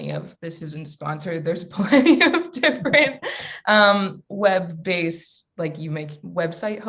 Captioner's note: laughs